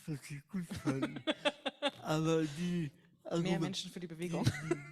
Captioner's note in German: lacht